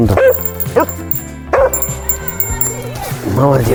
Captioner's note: barking